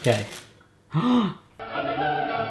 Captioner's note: gasp